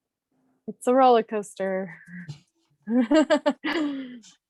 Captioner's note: laughs